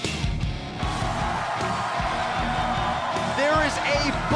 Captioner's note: crowd cheering